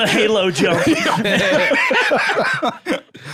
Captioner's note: all laughing